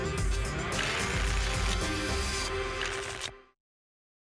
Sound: tickets shuffling

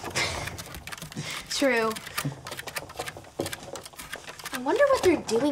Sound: scratching sounds

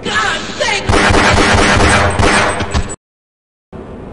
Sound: pistol shot

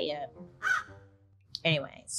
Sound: caws

